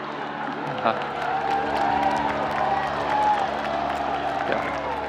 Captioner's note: students cheering and laughing